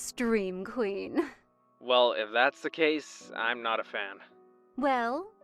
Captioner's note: phone vo